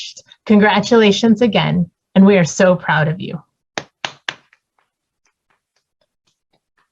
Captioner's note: claps